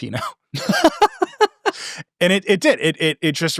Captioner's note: both laughing